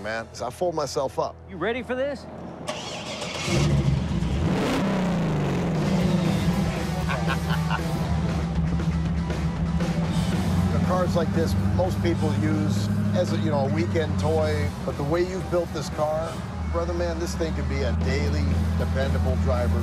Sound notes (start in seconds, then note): 3.4 engine roaring